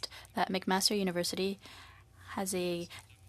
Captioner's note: speaking French